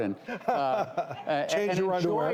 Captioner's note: laughing